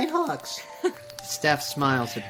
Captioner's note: Steph chuckling